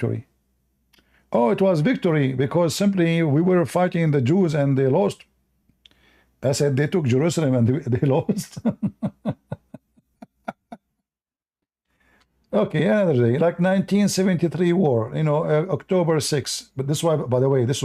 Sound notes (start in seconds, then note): 8.2 Ketawa